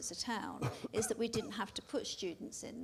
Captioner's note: coughs